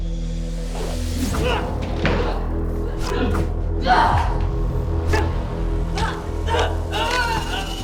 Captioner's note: dramatic orchestral music; grunting